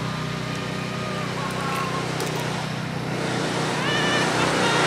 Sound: screaming as I drive back

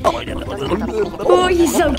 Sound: Red and Blue gibbering

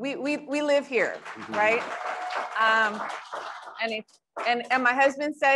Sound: crowd applauds

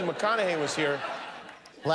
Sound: laughter

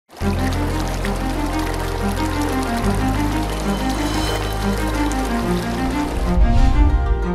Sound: running water; ♫ upbeat string instrument music ♫

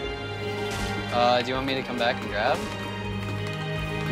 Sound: talking on headset

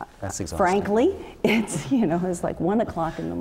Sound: laugh

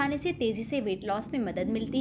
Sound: hindi

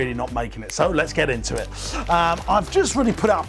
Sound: fingers snapping

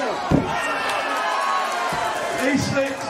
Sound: crowd jeering and clapping

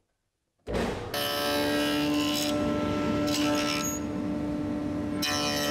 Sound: dato blade cutting through wood

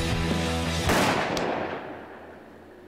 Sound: gunshot

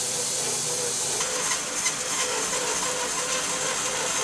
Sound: saw buzzes

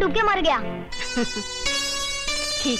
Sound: chuckles

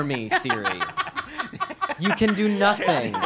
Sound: laugh

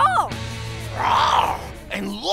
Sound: roaring

